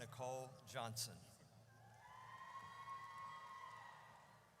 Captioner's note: audience cheers